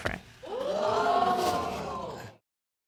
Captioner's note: audience gasping